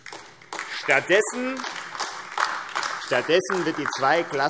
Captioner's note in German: Beifall AfD